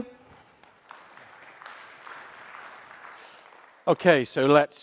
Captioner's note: audience applauding